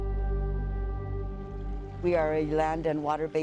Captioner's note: intense music; water flowing